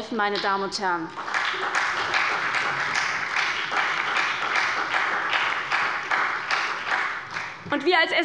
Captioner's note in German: Beifall bei der SPD